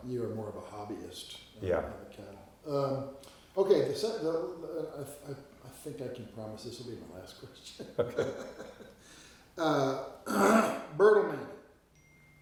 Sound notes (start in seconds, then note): 7.6 both laughing